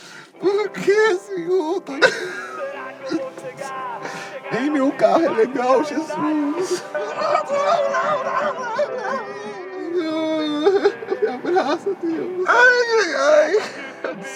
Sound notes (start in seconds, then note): 2.6 crying; 6.9 crying; 12.4 crying